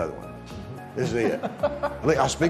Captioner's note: laughter